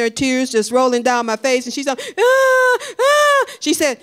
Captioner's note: crying